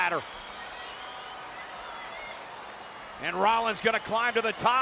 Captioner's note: crowd cheering